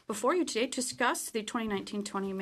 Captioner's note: speaking French